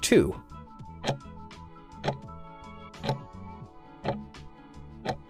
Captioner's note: timer ticking